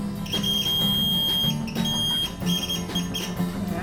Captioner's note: audible high-pitched tone